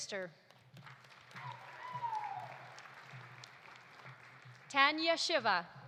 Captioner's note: audience applauding; audience cheering